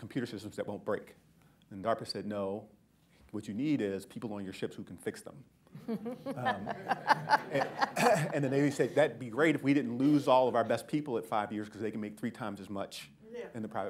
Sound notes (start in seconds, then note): 5.7 laughter